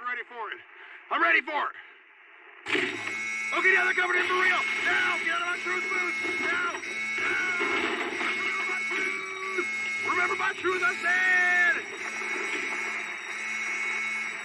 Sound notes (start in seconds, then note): 2.7 alarm; 3.1 glass breaking; 12.1 alarm; 12.1 broken radio